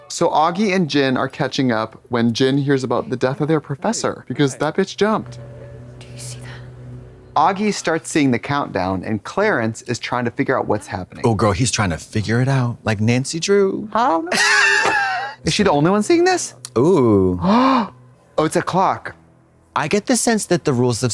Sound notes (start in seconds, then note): 14.6 Katya hisses